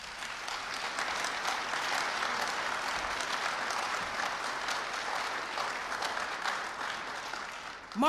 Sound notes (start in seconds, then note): 0.0 applause